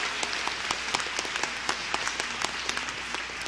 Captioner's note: cheers & applause